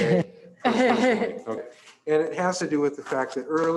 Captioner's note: trustees laughing